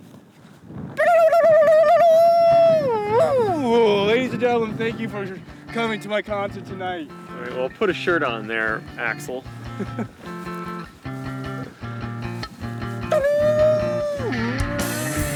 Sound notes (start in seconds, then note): 1.3 imitating guitar riffs; 13.5 imitating guitar riffs